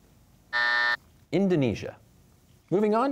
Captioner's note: buzzer